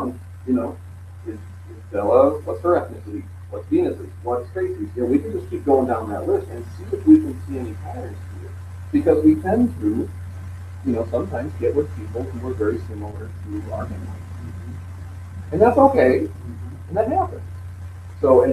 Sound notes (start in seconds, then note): 3.5 laughing